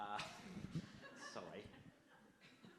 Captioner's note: audience laughs